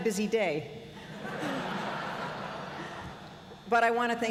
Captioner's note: laughter